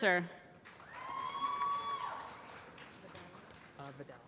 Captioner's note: applause